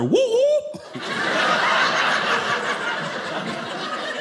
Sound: audience laughing

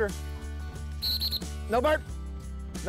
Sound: whistle blows

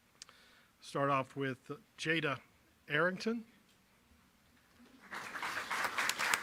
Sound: applause

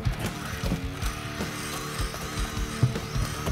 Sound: reel whirring

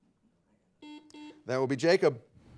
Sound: buzzer beeping

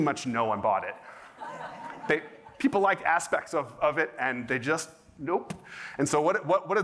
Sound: laughter

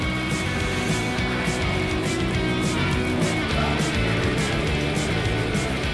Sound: Arnold sighs

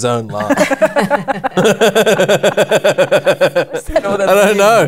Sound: laughter

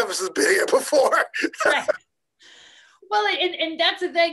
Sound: laughing

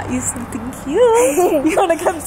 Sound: both giggling

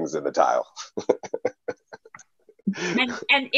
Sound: laughing

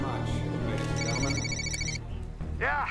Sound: ringtone

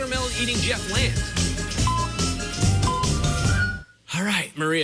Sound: electronic beeping

